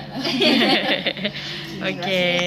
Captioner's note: giggle altogether